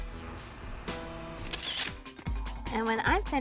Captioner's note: camera shutter clicks